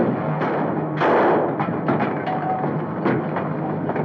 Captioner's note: gun firing